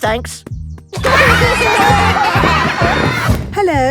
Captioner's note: laughter